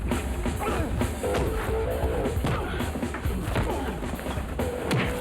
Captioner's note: upbeat music; men grunt